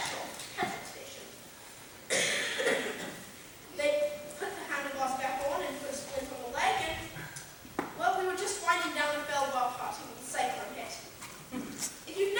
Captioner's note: coughs